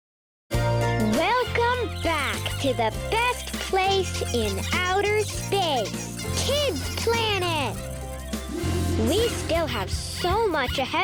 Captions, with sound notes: (upbeat music) Welcome back to the best place (animals squeaking) in outer space, Kids' Planet! We still have so much (pig squeaking)